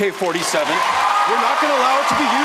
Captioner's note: crowd cheering